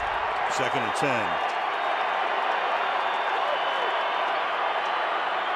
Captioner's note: whistling